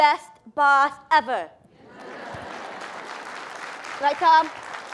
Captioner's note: applause